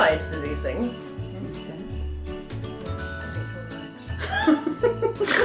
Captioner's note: quietly; laughing